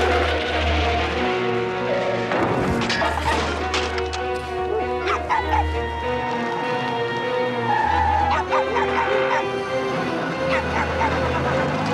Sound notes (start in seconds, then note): 2.2 crashing; 4.6 dog barking